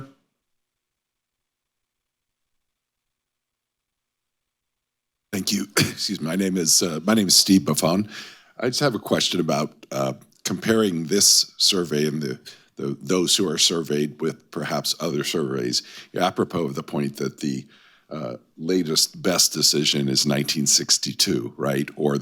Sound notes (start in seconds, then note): 5.3 coughs